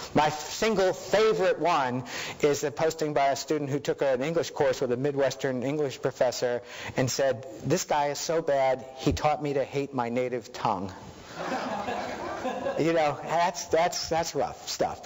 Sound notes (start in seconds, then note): 11.3 audience laughing